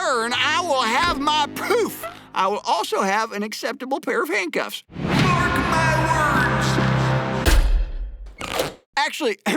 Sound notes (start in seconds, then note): 7.4 door slam